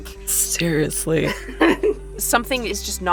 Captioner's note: SOMEONE laughs